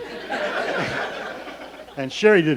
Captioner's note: laughing